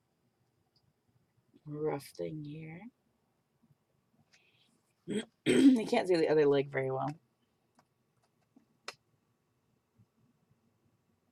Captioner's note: clears throat